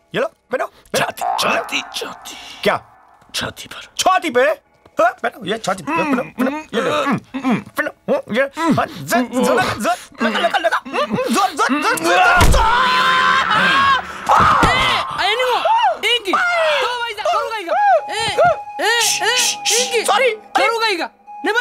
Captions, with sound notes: Here, wear them. Wear it. - Chest. Chest. - What? Place it on the chest. - On the chest. Here. Here. Shall I push harder? Shall I push harder? [Screams] [Speaking in foreign language] Sorry..